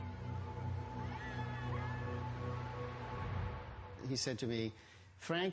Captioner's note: screaming girls